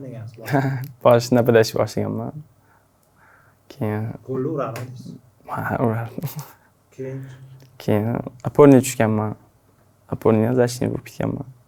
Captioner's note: laughing